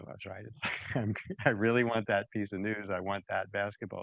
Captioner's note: laughs